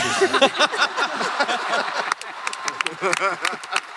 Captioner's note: laughter